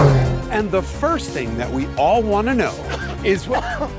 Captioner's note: coughing